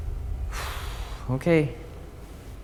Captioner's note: sighs